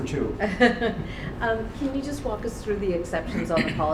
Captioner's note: laughs